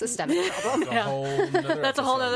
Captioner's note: all laughing